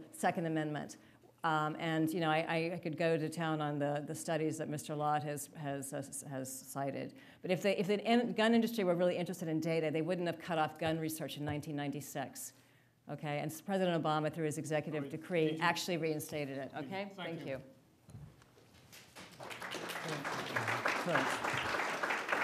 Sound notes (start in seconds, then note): 18.9 applause